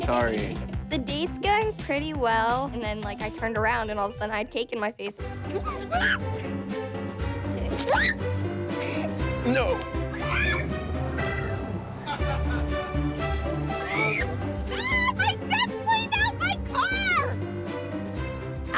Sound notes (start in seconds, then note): 0.1 laughs; 5.6 screams; 10.1 screams; 12.8 laughs